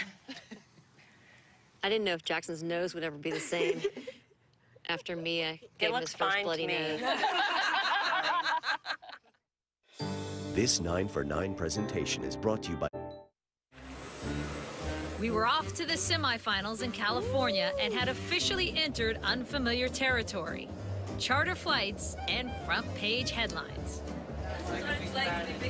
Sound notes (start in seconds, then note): 6.9 laughter